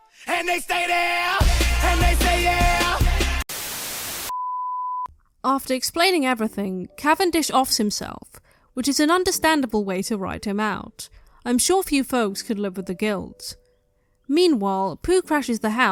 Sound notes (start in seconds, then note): 3.3 static